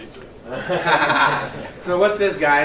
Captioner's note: laughing